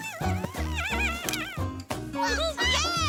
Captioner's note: cheering